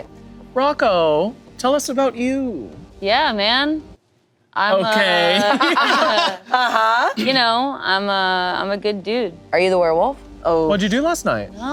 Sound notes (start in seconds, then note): 4.8 group laughing